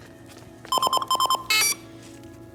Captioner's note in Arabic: التصفير